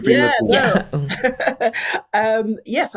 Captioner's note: chuckles